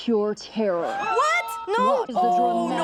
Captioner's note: zoo spectators scream